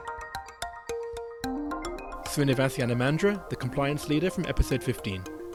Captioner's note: voiceover